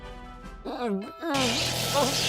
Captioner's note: grumbles; roars